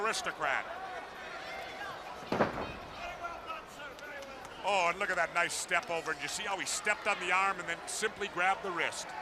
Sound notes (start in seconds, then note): 1.6 crowd chatter